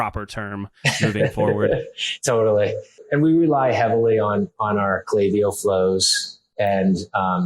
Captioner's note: laughs